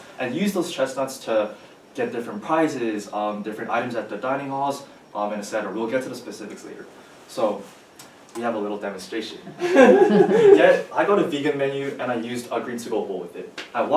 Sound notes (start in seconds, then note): 9.4 everyone chuckles